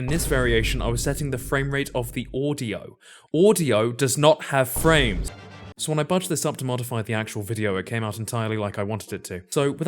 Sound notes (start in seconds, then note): 0.0 boom; 4.7 boom